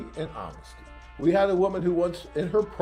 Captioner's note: Latin